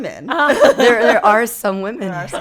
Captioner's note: laughing